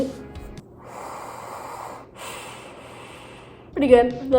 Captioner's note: inhaling and exhaling